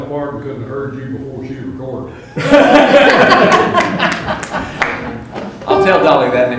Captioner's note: laughter